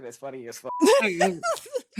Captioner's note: laughing